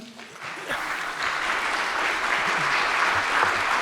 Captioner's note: audience clapping